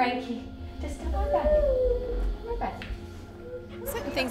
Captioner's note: whines